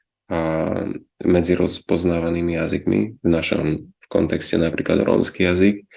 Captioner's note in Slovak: odkašľanie